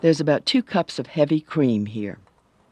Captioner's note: voiceover